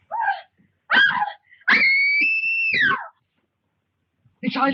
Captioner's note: screaming loudly